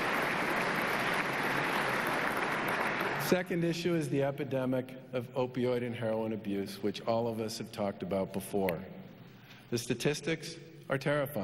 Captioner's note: applause